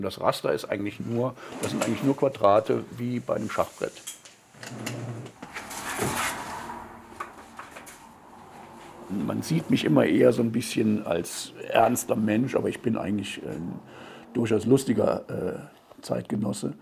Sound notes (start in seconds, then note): 5.4 printer noise